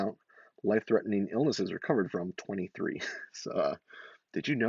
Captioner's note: laughs